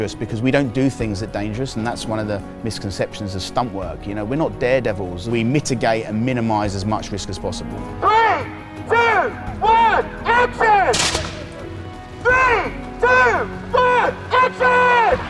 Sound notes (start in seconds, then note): 11.0 explosion